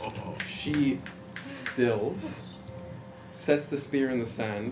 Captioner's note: laughs